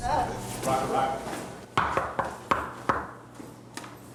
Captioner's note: knocking